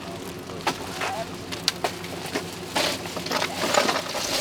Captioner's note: loud clatters